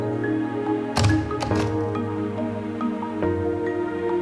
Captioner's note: doors opening